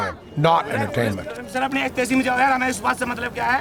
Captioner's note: non-english speech